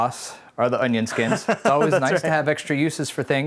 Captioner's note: laughing